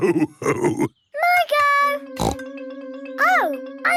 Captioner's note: snorts